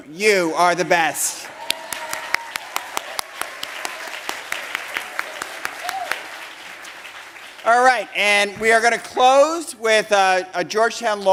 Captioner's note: applause